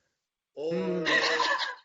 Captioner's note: laughing